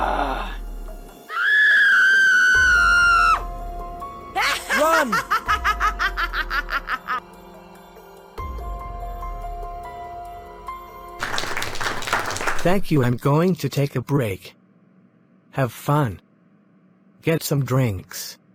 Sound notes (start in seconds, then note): 1.3 woman screams; 4.4 Evie laughs maniacally